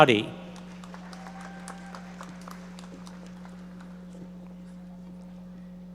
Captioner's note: audience members applauding